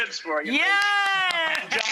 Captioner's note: claps